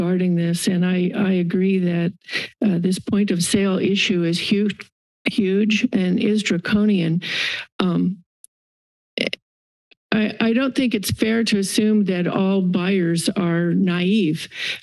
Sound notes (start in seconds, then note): 7.3 inhales